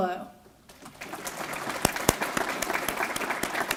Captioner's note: applause